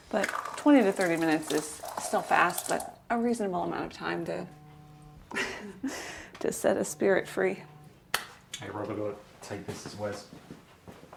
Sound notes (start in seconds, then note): 3.6 phone buzzing